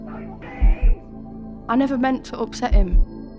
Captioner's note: faint sound of man shouting angrily